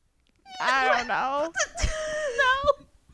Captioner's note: laughter